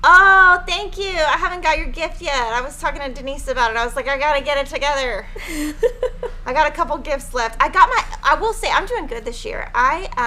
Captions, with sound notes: - Oh, thank you, I haven't got your gift yet, I was talking to Denise about it. I was like, "I gotta get it together." (laughing) I got a couple of gifts left. I got my, I will say, I'm doing good this year.